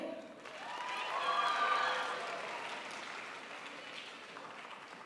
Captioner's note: crowd applauds